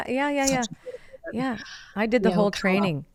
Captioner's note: faintly speaking